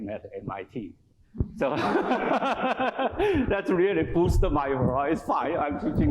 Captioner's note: laughs